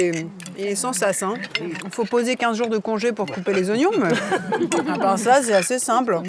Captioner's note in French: rires